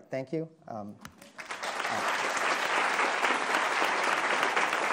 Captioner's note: attendees applauding